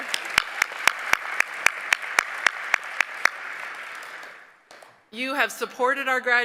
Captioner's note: applause